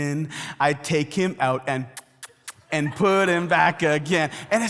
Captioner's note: kissing sounds